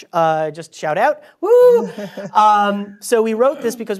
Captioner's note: laugh